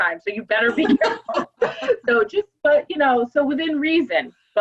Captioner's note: laugh